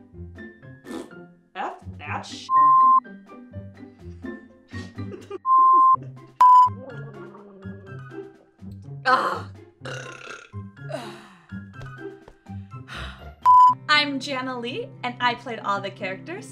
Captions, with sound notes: F that sh** (unexpected laughter) What the F*** was that? (manly pig burp) (satisfied sigh) I'm Jahnnalee and I played all the characters